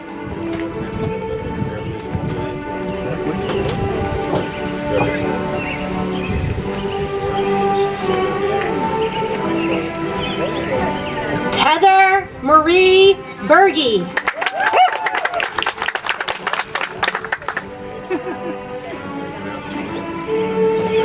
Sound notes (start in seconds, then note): 0.1 soft music; 14.1 audience applauds; 18.4 soft music